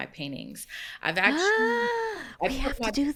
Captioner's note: gasps